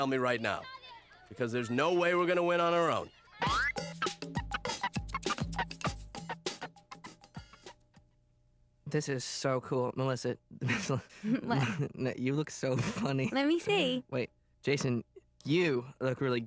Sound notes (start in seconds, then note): 10.6 giggling